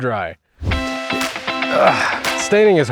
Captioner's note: bright music; worker groans